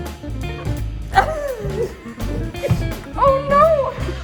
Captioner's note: laughs; women laugh